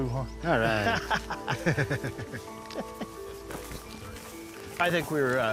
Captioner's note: laughing